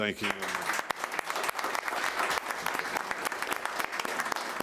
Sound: applauding

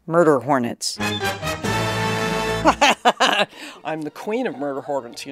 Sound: laughs

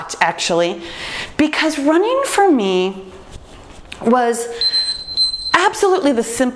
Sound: timer beeps

